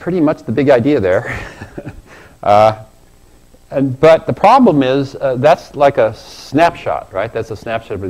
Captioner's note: laugh